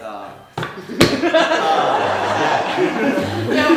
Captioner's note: audience laughing